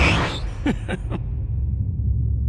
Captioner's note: laughter